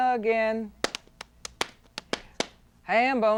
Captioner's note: rhythmic clapping